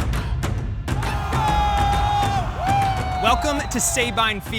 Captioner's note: upbeat music; cadets yelling